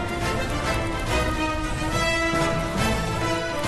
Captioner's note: fire roaring